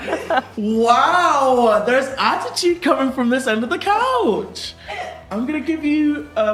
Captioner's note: laughing